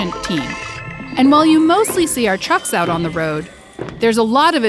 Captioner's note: robotic sounds